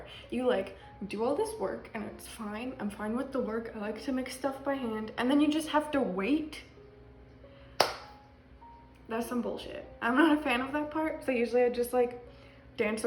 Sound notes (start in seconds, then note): 7.8 claps